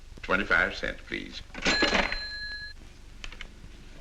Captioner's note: cash register rings